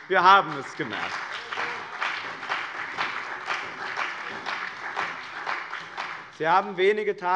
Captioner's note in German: Beifall bei dem BÜNDNIS 90/DIE GRÜNEN und der CDU